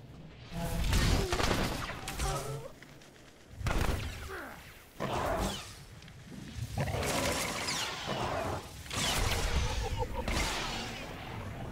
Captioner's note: gunshots